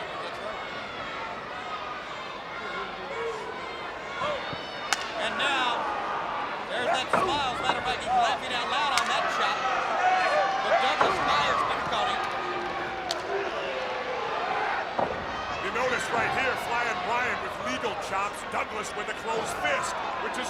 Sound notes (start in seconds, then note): 4.8 blows thudding; 13.1 blows thudding